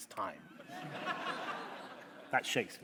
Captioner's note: laughter